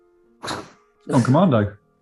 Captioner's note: chuckling